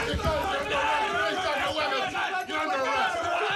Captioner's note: shouting